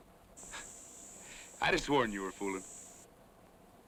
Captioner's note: chuckles